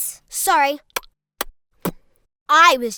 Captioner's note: smacking lips